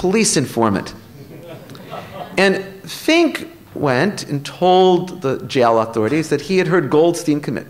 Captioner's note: laughter